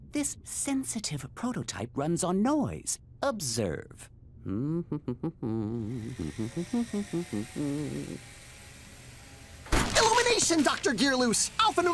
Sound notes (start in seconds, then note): 4.4 humming